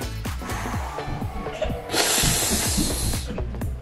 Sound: breathes

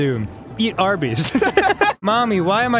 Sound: laughter

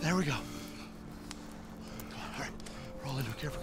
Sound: blows

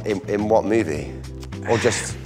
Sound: sighs

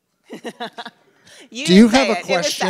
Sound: laughs

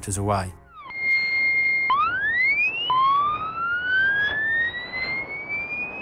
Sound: chirping at various frequencies

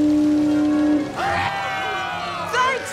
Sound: cheering

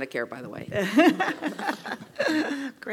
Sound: laugh

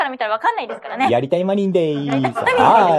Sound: laughs

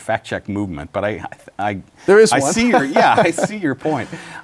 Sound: laughs

